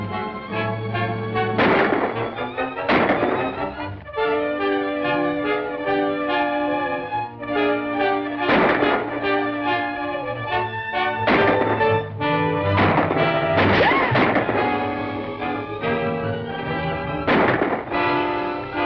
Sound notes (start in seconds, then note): 3.8 dramatic music; 8.4 gunshots